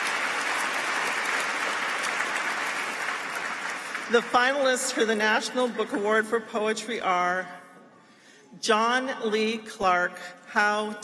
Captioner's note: applause